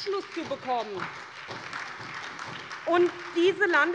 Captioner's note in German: Beifall bei der SPD